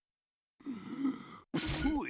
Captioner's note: inhaling